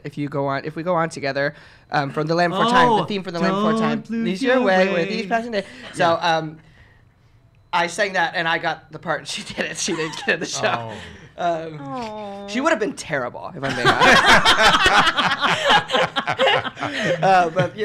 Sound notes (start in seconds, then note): 13.7 laughs